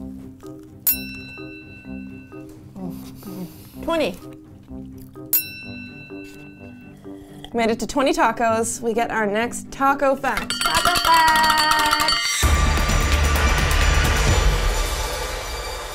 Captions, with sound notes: (bell ringing) - 20! (bell ringing) Made it to 20 tacos. We get our next taco fact. - Taco fact! (intense music)